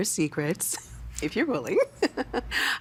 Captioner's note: giggling